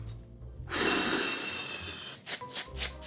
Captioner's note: huff